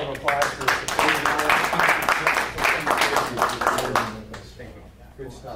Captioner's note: board and audience applauding